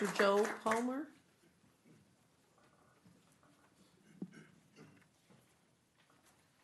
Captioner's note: clapping